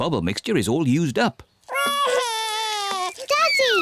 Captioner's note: wails